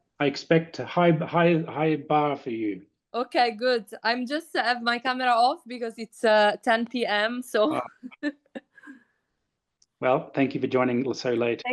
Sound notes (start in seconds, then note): 7.6 laughs